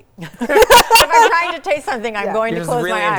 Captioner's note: people laugh